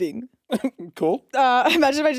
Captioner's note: chuckles